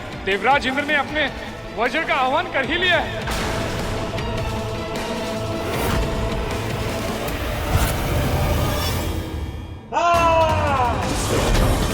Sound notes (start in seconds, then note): 9.9 screams